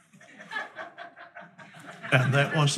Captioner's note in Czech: diváci se smějí